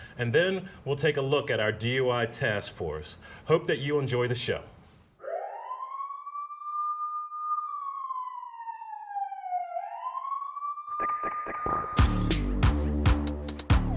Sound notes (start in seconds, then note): 5.2 police siren; 10.9 dramatic music